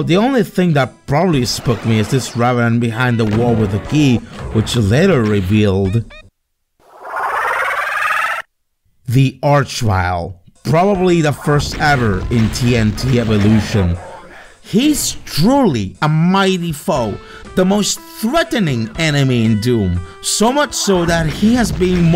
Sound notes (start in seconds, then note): 6.8 Arch-Vile noise